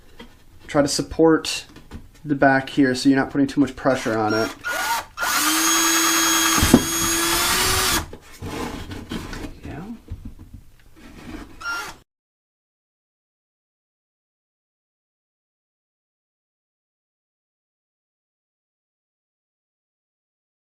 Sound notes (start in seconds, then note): 6.2 drilling